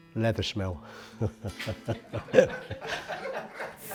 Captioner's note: laughs